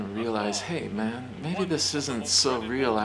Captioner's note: TV blasting faintly